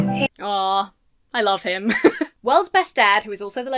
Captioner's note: laughs